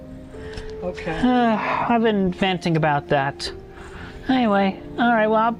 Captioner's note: sigh